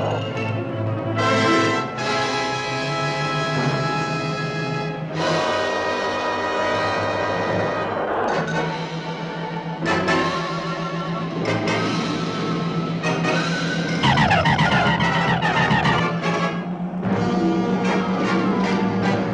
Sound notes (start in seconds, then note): 14.3 zapping